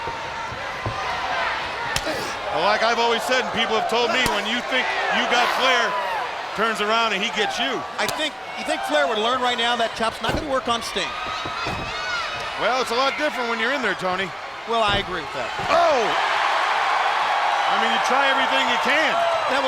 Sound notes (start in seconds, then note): 0.1 crowd cheering; 1.9 chop striking; 11.6 crowd cheering; 15.8 Bobby exclaiming; 15.8 crowd cheering